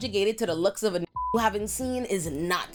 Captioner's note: beep